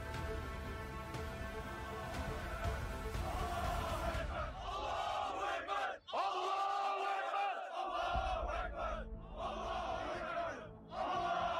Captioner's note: takbir Voices